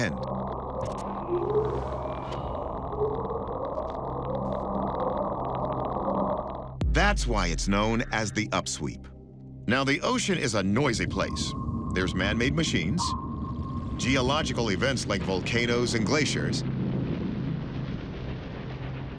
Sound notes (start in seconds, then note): 0.0 mysterious sounds vibrating; 10.2 submarine sonar beeping; 16.9 glacier rumbling